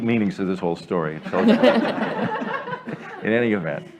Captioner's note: laughter